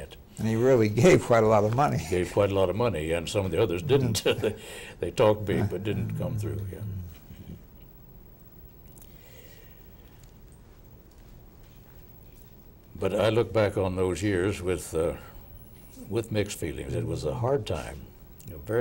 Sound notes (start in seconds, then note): 5.2 laughing